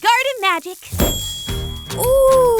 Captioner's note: poof